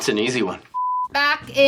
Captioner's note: color bars beeping